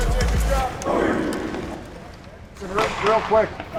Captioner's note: team chants